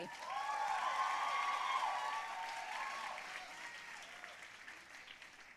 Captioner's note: audience cheering and applauding